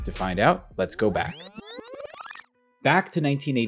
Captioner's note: tape squealing